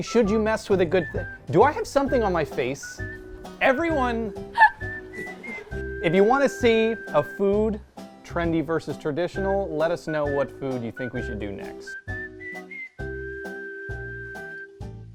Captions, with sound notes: Should you mess with a good thing? Do I have something on my face? Everyone, (laughing) if you wanna see a food Trendy Versus Traditional, let us know what food you think we should do next.